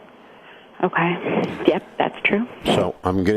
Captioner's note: sighs